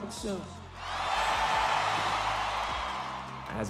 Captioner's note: crowd cheering